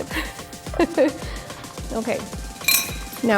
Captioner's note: laughs